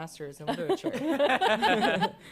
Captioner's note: laughter